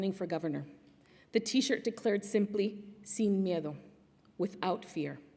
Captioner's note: non-english speech